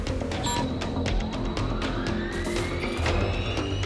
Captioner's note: whirring